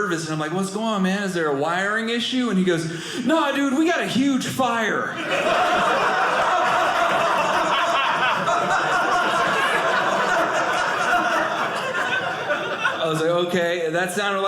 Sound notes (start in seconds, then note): 5.1 audience laughing